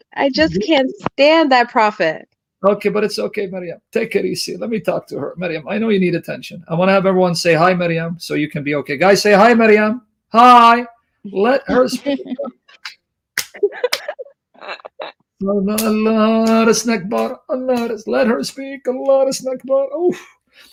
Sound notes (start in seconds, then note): 13.4 laughing